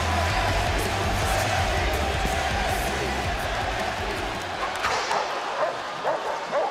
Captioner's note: crowd chants